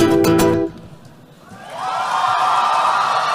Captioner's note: cheering